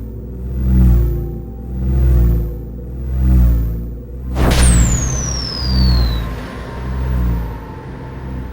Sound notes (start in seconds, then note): 4.3 explosion